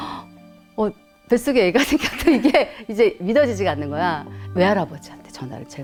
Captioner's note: laughs